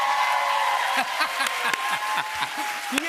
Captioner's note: cheers and applause; laughs